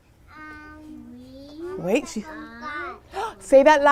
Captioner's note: speaking Spanish